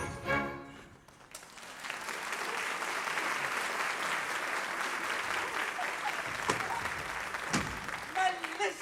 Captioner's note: applause